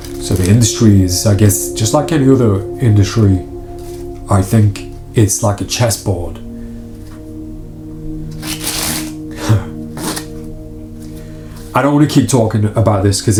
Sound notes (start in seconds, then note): 9.2 sighs; 10.0 cards shuffling